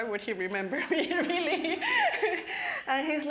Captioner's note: laughing